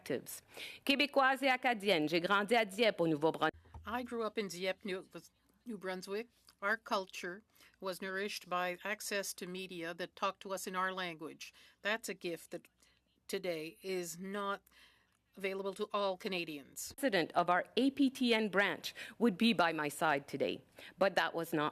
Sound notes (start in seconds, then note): 6.5 speaking French